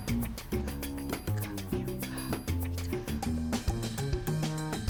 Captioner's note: whispering